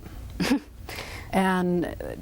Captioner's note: laughs